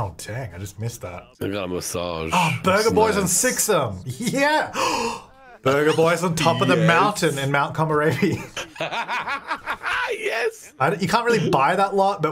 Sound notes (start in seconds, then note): 8.1 laughing